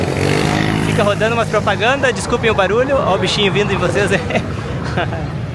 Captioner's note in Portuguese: risadas